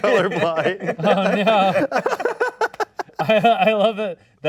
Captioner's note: all laughing